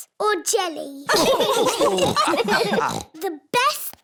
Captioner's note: laughter